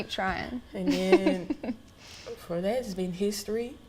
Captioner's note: giggles